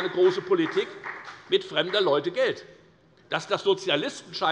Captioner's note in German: Beifall bei der FDP